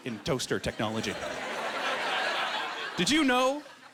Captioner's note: laughing